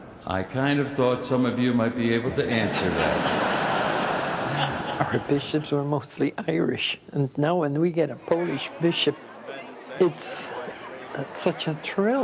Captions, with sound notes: I kind of thought some of you might be able to answer that. (laughter) - Our Bishops were mostly Irish. And now when we get a Polish bishop, it's such a thrill,